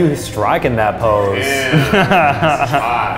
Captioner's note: laughs